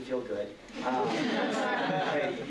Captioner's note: laughter